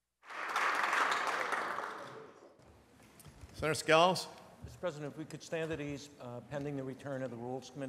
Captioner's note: applause